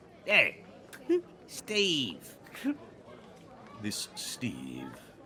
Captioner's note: Cornette laughs